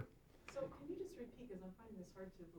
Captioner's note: voiceover